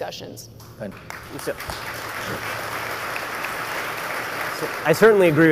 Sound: audience applauds

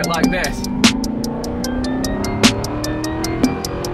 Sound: engine raving

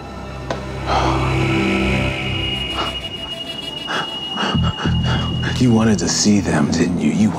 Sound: gasping

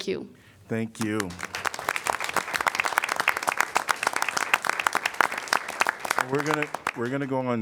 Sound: applause

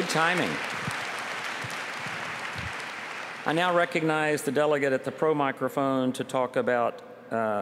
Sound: applause

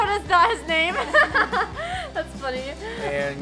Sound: laughing

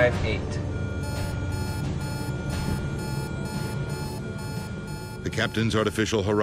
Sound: electronics beeping

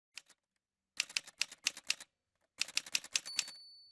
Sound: typewriter sounds

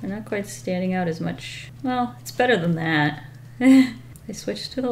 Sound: chuckles

